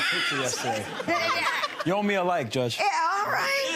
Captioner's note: audience laughter drowns out reply